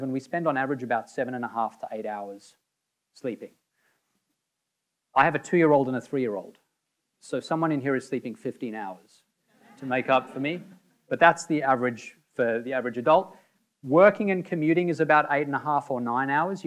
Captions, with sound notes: we spend on average about 7 1/2 to 8 hours sleeping. I have a two-year-old and a three-year-old, so someone in here is sleeping 15 hours (audience laughing) to make up for me. But that's the average for the average adult. Working and commuting is about 8 1/2 or 9 hours.